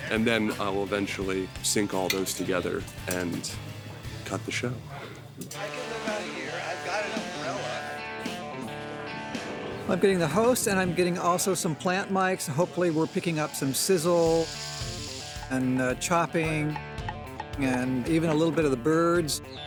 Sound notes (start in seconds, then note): 14.5 sizzling; 16.8 chopping